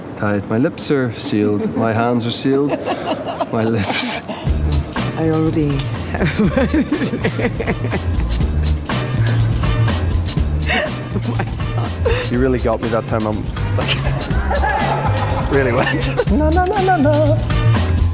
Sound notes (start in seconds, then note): 2.4 Gal laughing; 4.1 laughs; 6.0 Gal laughs; 10.6 Gal laughs; 14.4 crew laughs; 17.9 funk music continues